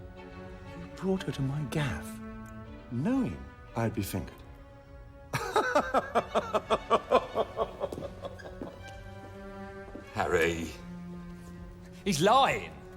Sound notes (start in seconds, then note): 5.3 laughing